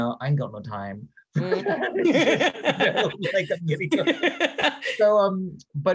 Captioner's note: laughing